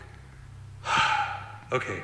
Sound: sighs

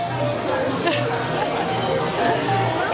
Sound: laughing

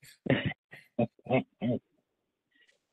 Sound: laughs

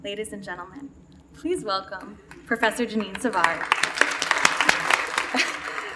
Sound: clapping

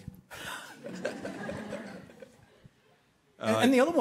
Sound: laughter

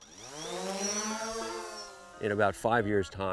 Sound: drone whirs

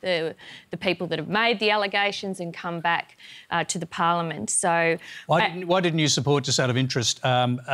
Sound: none

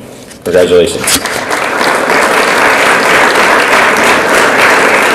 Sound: audience applauds

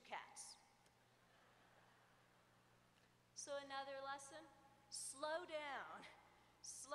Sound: laughter

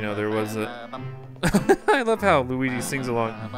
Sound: laughter

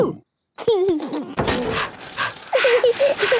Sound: mummy pig panting; daddy pig panting; chuckles; peppa chuckles

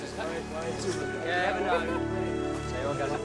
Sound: chattering

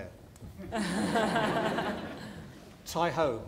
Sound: laughter

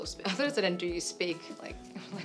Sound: laughs

